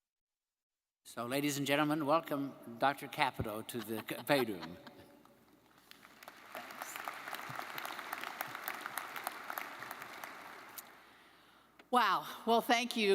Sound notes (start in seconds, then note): 5.6 crowd applauding